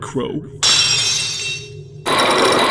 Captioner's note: lock shatters!; chains grinding!